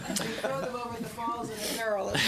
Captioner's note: laughter